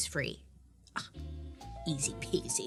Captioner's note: exclaiming